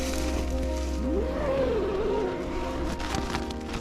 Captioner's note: zipper; tent flapping